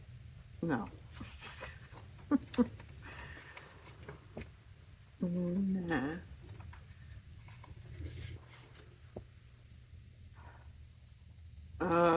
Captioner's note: laughs